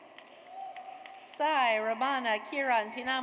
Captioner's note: audience cheers